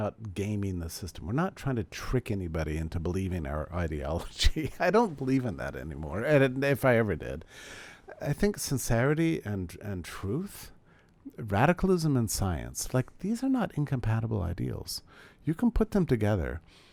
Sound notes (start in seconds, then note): 4.3 laughs